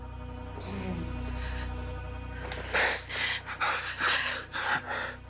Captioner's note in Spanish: Sollozos